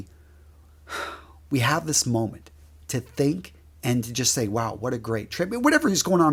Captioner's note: sigh